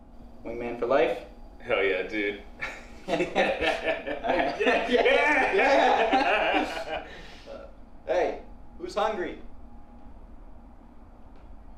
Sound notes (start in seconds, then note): 4.3 cheers